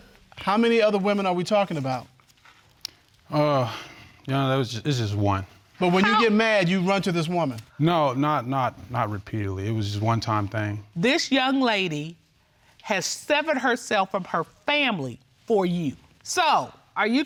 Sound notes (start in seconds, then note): 3.4 sighs